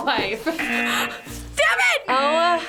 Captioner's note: buzzer rings